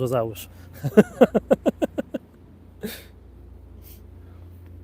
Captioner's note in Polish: śmiech